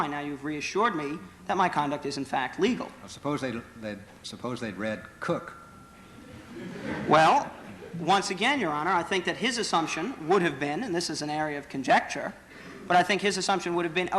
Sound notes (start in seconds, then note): 6.2 laughter